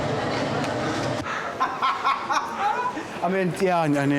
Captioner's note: richard laughs